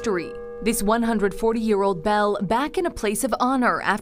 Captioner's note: bell tolls